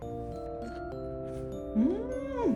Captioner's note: Crunch